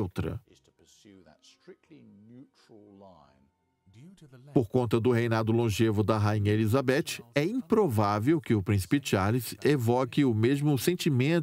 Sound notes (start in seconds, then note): 3.5 voiceover